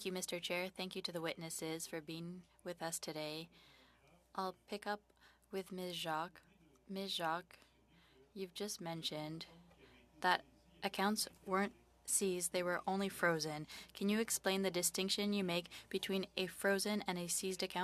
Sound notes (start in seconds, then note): 5.2 speaking French